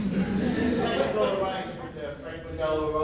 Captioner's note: audience laughs